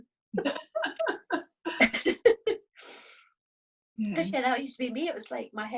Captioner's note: both laugh